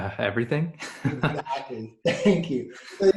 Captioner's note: laughing